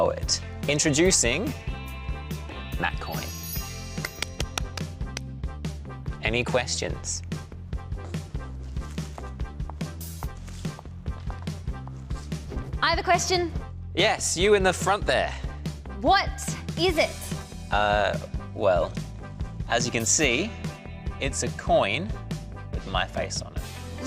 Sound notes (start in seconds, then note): 4.0 applauds